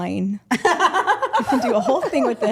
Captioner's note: women laughing